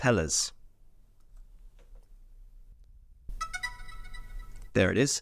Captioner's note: digital sound